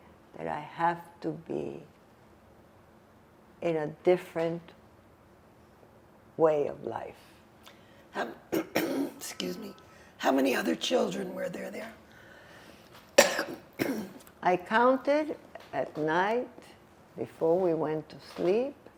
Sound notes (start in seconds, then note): 8.5 clears throat; 13.1 coughing